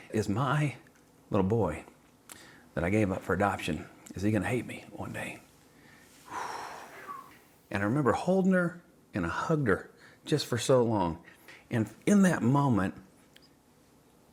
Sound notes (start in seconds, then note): 6.2 sighs